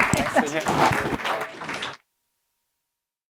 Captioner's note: audience applauds